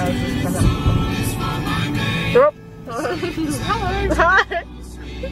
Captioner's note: laughing